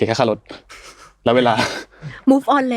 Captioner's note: laughs